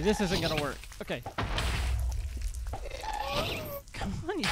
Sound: laughs

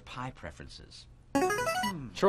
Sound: buzzer plays

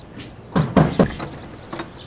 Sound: repeated knocks

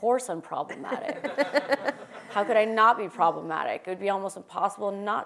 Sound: laugh

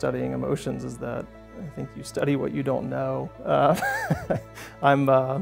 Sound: laughs

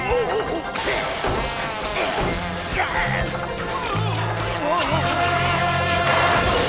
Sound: groaning

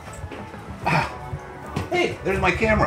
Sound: grunts

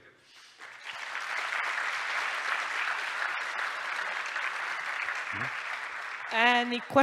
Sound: applause

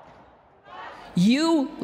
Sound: protesters chanting

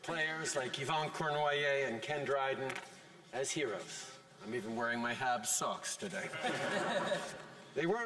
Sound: laughter

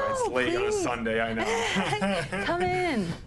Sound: both laugh

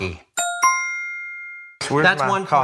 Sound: bell dings

